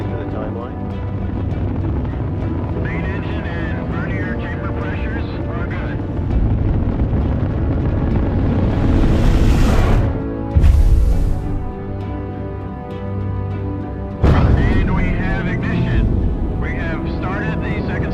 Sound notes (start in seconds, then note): 8.1 rocket engine roaring; 11.1 inspirational music; 11.1 whooshing; 14.3 engine roaring